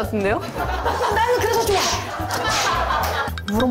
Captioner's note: whip! Crack!